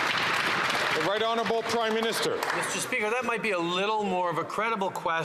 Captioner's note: some Applause